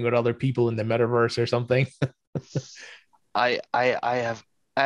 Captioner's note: chuckles